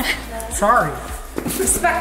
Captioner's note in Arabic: ضحكات خافتة من الكريستال